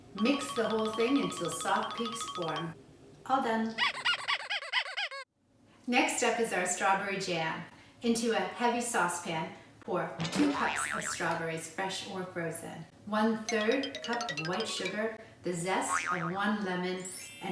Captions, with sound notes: Mix the whole thing until soft peaks form. All done. (toy squeaking) Next up is our strawberry jam. Into a heavy saucepan, pour two cups of strawberries, fresh or frozen. One third cup of white sugar, the zest of one lemon